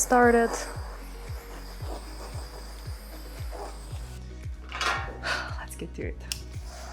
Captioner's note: blowtorch whirring; upbeat music continues